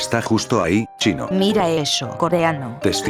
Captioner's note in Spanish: Korean